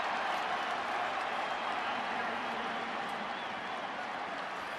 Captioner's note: cheering